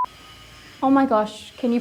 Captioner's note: equipment grinding loudly